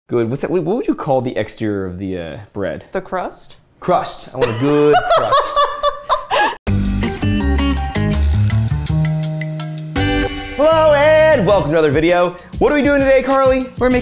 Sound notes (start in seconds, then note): 4.4 laughing; 6.6 upbeat music